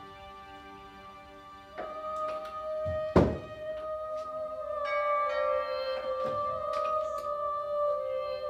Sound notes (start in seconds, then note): 5.1 doorbell rings